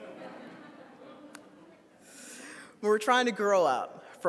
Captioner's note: audience laughs